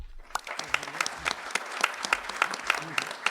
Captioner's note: applause